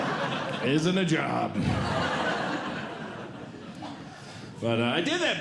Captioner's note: audience Laughing